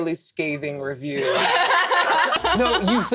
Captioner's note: laughter